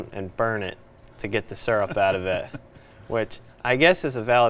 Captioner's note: chuckling